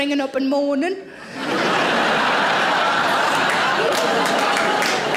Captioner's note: audience laughing